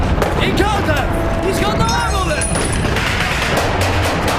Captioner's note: all shouting; guns firing